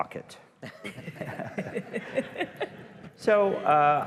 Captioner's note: laughter